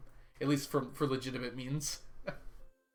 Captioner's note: laughs